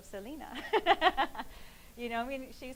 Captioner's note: laughing